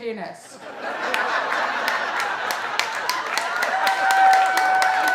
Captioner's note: audience laughing